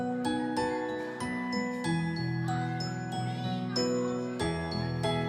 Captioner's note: children shouting